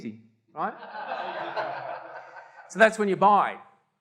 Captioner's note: audience laughter